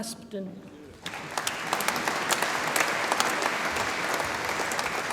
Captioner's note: audience applauds